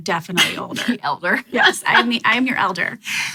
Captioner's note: laughs